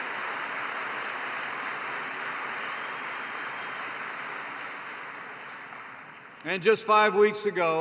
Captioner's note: applause